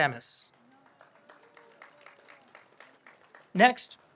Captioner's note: audience applauds